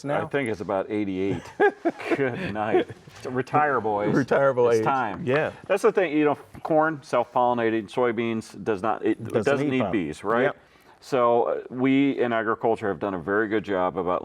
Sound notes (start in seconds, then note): 1.2 laughing